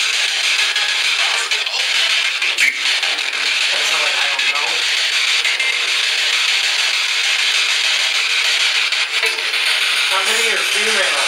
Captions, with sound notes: that sounded like "I don't know". (loud static noise) how many are female?